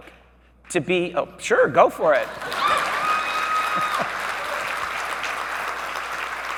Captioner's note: audience cheering